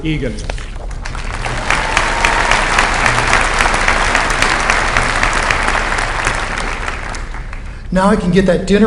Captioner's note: applause